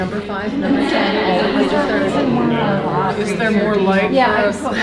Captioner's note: participants laughing